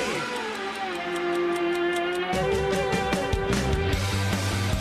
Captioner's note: ticking